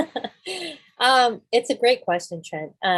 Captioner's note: laughing